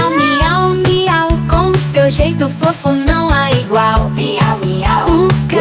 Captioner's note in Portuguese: Miau, miau, miau